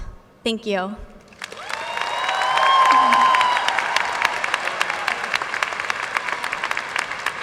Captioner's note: audience cheers and applauds